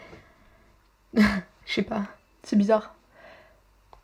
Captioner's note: laughs